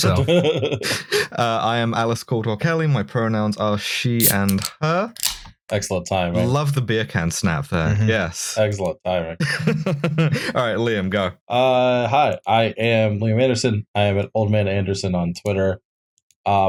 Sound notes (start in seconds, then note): 0.0 laughter; 4.2 TASTY beer can snap; 9.4 laughter